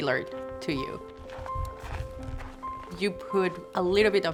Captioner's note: snow crunching